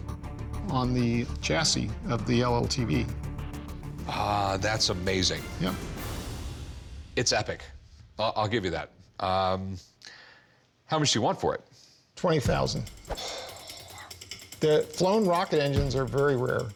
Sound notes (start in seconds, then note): 13.0 exhales